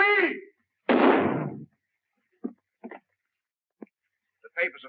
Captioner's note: gun firing